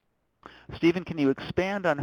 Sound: voiceover

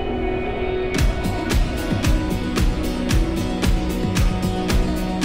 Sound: upbeat music; wind howling

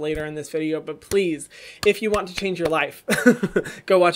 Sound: laughs

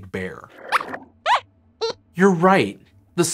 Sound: squeaks squeaks

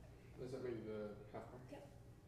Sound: speaks faintly

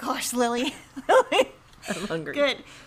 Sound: laughs

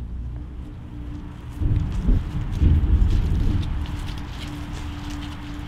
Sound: thunder

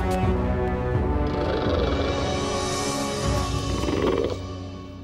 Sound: chittering

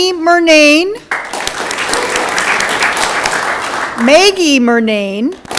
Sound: audience clapping; audience clapping

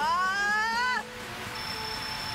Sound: shout

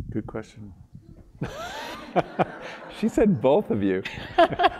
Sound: laugh

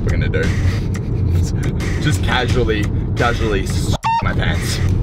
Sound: squawk

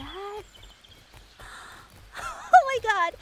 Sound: gasp

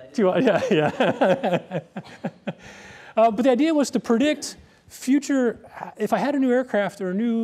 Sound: laughs

